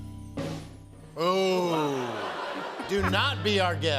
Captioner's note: laughter